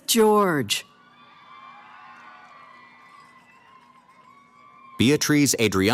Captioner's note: cheering